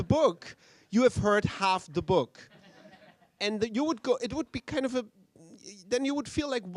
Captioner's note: laughter